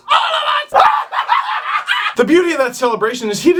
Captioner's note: screams of joy